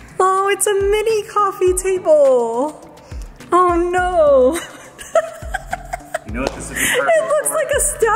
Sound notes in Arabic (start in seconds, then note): 4.5 يضحك